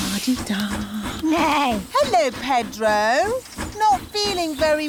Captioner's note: neighs